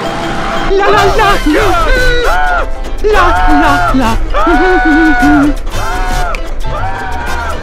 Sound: SMG4 Screaming; singing

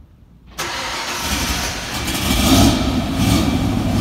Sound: engine starts

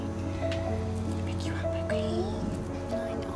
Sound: growl

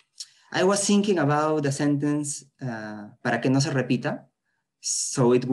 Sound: spanish

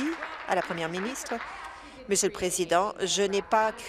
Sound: applause

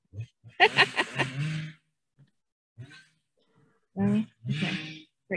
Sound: laughing

